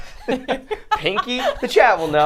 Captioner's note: both laugh